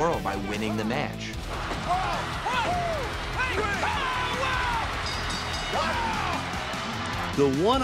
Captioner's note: announcers exclaiming